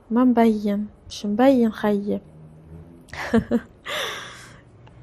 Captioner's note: laughs